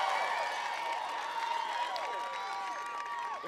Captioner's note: applause